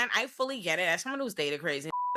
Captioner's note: beep